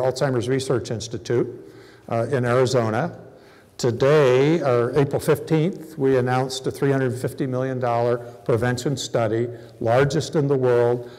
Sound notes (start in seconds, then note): none